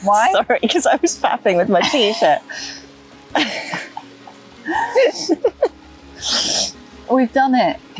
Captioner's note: giggles